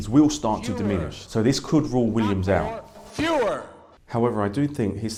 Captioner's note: Joe Biden shouting “fewer”